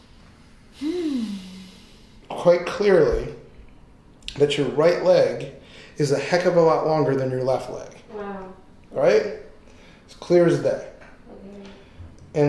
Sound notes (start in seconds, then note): 0.7 sighing